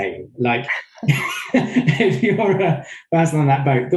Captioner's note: all giggling